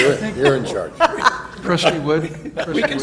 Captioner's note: chuckles